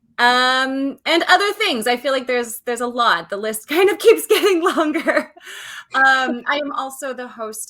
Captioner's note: laughs